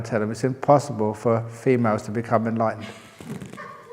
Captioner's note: laughter